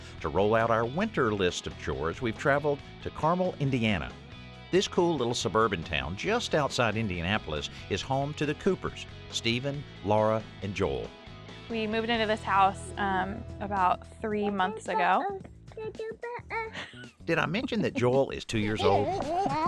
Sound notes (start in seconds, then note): 14.8 laughter; 15.7 babbling